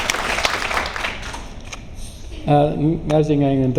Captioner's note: applause; laughs